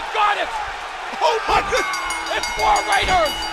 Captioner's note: bell ringing